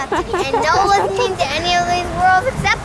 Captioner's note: laughing